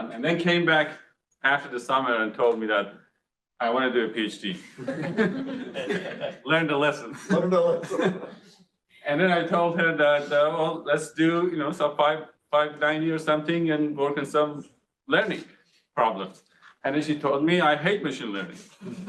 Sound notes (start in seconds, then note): 4.6 audience laughs